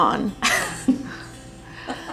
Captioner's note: laughing